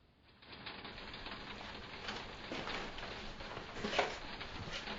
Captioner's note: raining